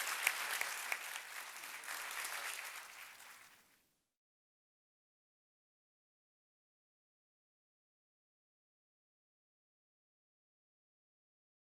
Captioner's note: applause